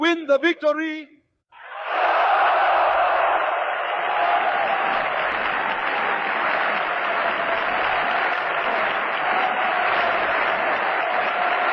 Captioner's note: applause